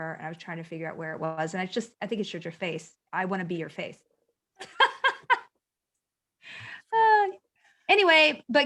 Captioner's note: laughter